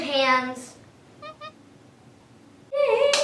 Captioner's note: monkey squeaks